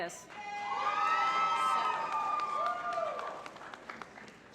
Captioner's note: applause